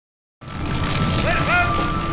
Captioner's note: fire crackling